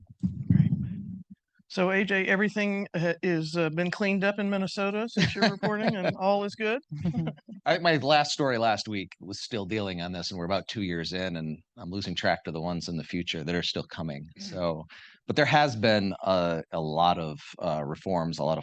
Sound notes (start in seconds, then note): 5.1 laughing